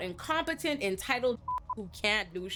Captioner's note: beep